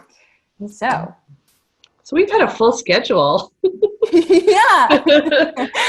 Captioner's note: laughter